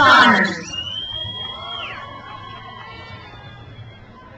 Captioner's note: crowd cheers